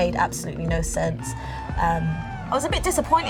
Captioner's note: crowd cheers